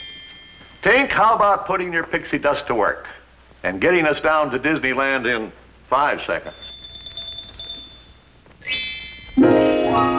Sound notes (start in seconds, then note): 6.4 bells tinkle